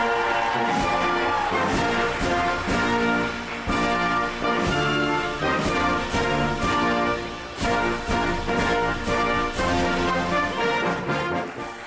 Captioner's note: applause